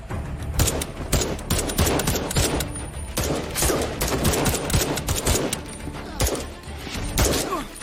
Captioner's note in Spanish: Disparos